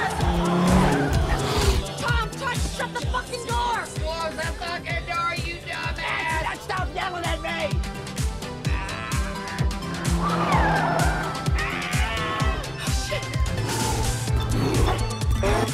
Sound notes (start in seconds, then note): 8.8 straining; 10.1 screams; 10.4 tires squealing